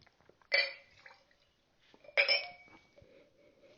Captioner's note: glass clinking